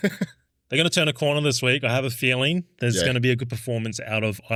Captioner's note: laughing